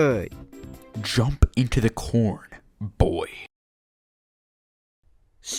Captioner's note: now in a deep intimidating voice